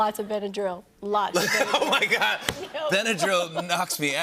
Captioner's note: laughter